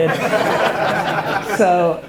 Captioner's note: crowd laughter